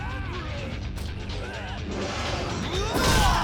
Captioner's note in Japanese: 叫び声